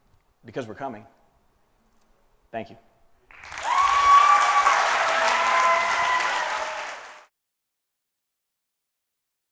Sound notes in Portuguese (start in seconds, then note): 3.3 Aplausos